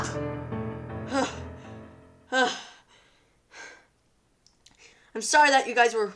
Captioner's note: heavy breathing